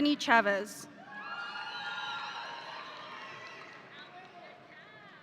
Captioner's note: audience applauding